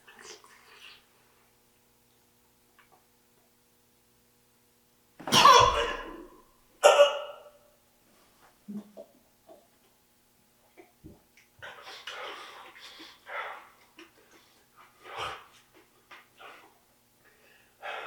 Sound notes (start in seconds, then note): 0.3 mouth squishing; 5.3 Jacob coughing; 11.9 Jacob shivering